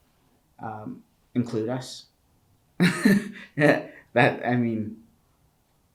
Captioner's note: chuckles